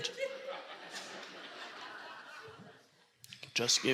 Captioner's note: audience laughing